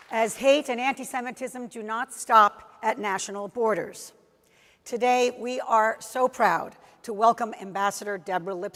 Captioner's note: applause